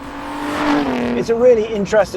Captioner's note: engine revs